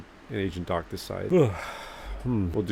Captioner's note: sigh